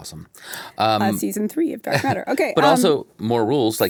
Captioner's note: chuckles